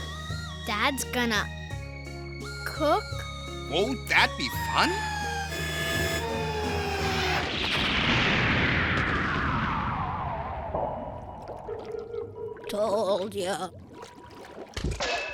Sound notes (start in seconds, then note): 7.4 explosion